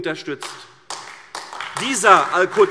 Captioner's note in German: Beifall AfD